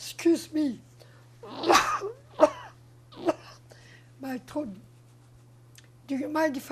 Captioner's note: coughing